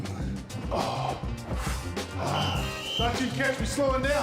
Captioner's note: groaning